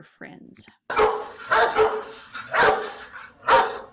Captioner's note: dog barks